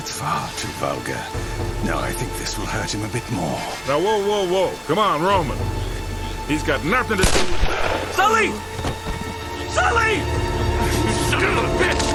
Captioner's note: in-game audio